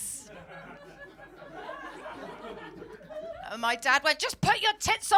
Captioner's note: audience laughing